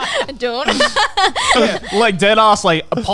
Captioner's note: laughing